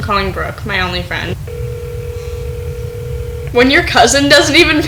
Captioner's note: ringing